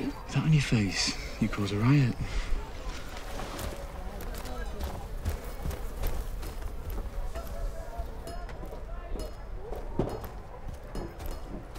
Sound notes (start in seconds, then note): 5.0 murmurs of village life